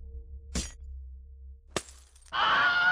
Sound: breaking glass; The famously dorkish 'Wilhelm Scream'

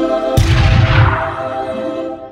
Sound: gunshot

